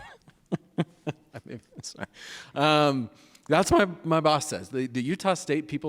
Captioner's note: laughs